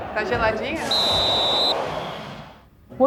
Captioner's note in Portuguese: apito